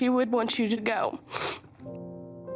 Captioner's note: sobbing